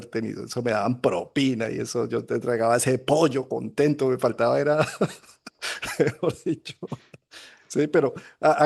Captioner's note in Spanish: risas